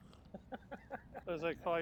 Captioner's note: laughing